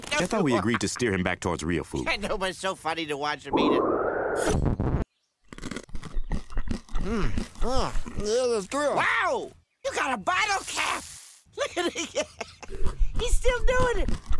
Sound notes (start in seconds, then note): 0.4 laughter; 5.5 crunching; 11.5 more laughter